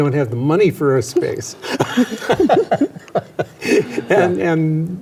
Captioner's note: laughs